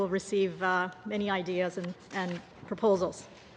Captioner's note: speaking english